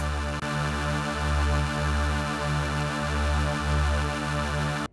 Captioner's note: eerie sci-fi whirring